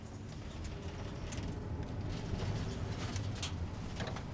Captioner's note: van rattling